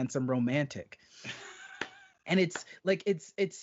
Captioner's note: laughing